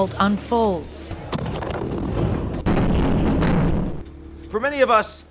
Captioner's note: explosions rumbling